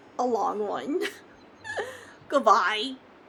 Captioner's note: laughs